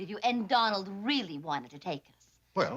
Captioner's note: none